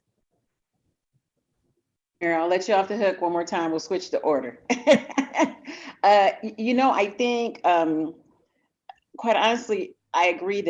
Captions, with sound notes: Yeah, I'll let you off the hook one more time. We'll switch the order (laughs). I think, quite honestly, I agree